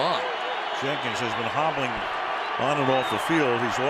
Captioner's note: cheering